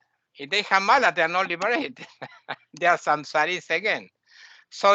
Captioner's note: laughing